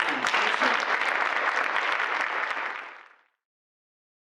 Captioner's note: audience applause